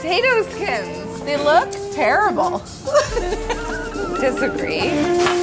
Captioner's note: laughs